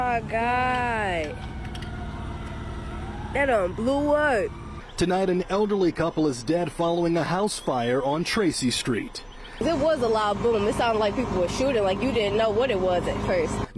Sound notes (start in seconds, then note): 7.4 siren